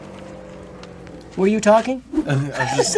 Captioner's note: laughs